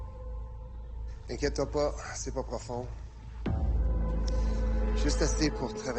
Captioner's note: LaFleur speaking in French